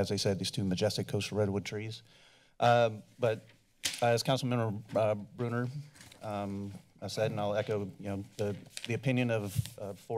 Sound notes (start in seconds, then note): none